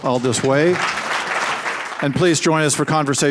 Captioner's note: audience claps